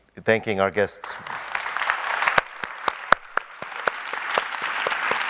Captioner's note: audience applauding